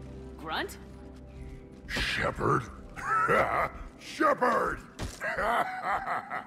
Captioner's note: laughs